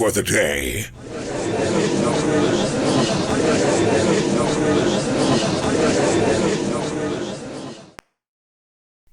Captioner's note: gallery chattering